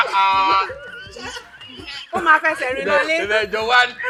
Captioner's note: everyone laughs